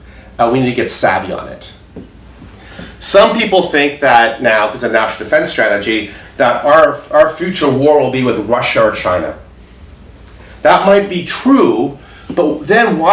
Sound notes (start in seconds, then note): none